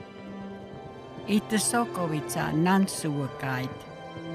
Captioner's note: in Native language